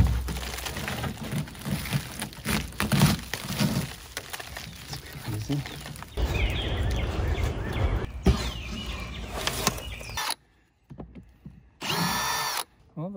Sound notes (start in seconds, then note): 6.4 birds chirping; 8.2 pulling metal; 11.8 drilling